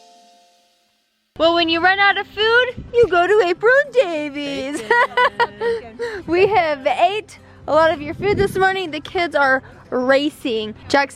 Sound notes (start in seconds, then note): 4.6 laughing